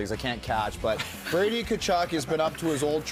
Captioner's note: laughter